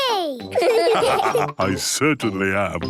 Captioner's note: laughs; all laugh